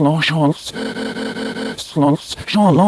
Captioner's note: reversed inhale stuttering